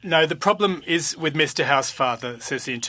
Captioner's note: speaking French